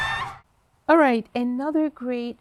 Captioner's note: screams; roaring